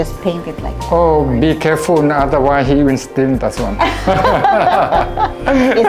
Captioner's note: laugh